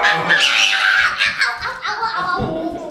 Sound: roaring; kids screeching

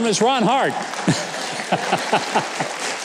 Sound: audience applauding; people laughing

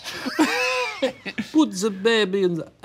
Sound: laughing

